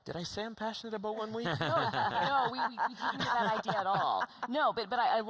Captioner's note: laughter